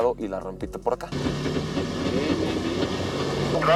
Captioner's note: engine revving; voice on radio